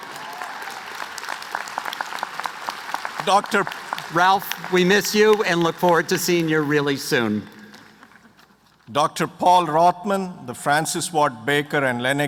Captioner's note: applause